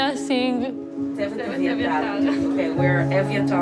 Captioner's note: people chattering